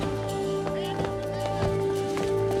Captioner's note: man shouts instructions